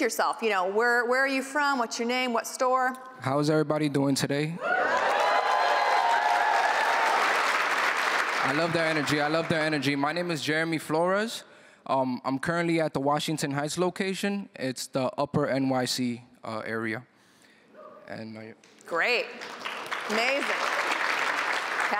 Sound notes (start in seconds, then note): 4.6 cheering